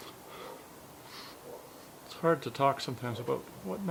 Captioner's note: sniffles